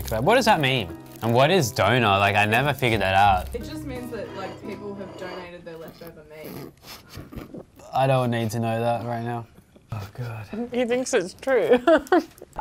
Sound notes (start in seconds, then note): 6.6 giggling; 11.8 laughing